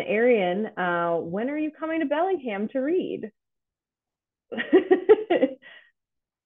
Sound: laughs

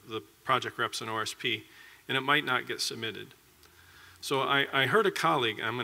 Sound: none

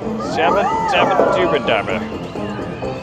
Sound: drunken rambling

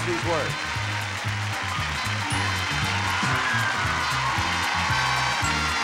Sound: audience applauding

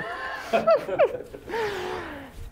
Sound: laughter

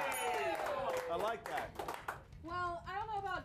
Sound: applause

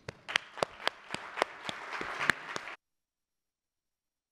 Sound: audience applauding

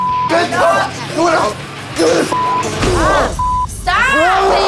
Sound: yelling

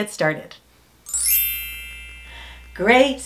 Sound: bell chimes

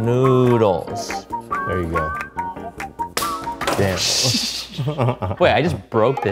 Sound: laughing

